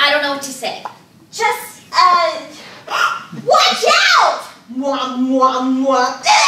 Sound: gasps

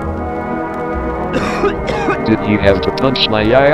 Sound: coughs

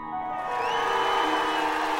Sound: screams

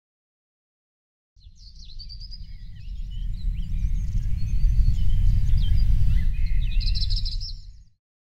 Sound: birds chirping

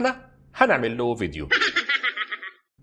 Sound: laughing

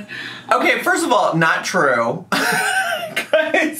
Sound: laughs

